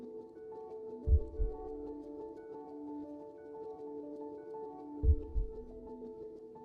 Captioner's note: heartbeat continues